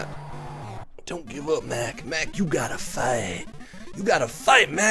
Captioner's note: gravelly voice